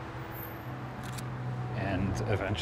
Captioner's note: camera clicks